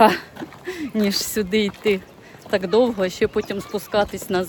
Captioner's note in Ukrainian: сміх